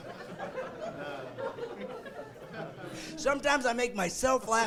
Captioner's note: laughing